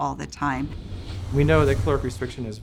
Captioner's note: whooshing